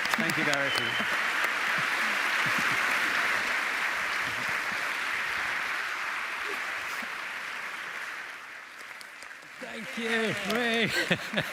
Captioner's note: applause